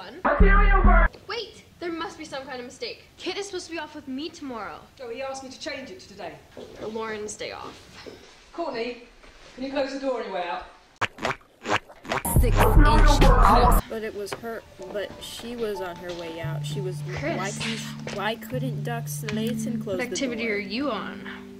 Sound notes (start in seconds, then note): 11.0 squidward's squelchy feet walking